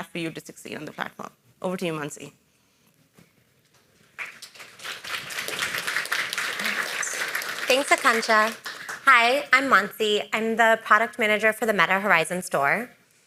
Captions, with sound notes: for you to succeed on the platform. Over to you, Mahncy. (audience applauding) - Thanks, Akanksha. Hi, I'm Mahncy. I'm the Product Manager for the Meta Horizon Store.